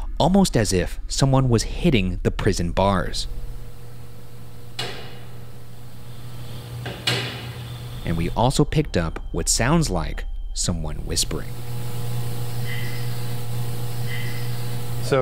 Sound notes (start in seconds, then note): 3.2 bars clank; 12.0 person whispers